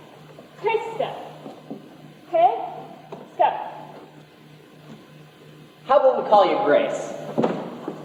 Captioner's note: none